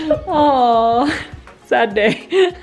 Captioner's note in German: lacht